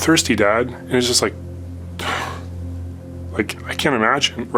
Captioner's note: exhales